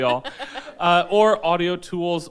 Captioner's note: laughs